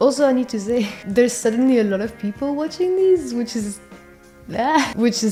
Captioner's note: happy goblin noises